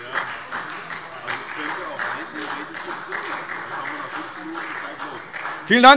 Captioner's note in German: Beifall